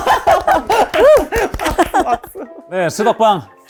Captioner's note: clap